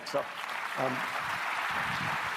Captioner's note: applause